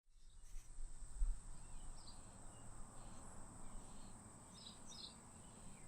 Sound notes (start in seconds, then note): 1.5 birds chirp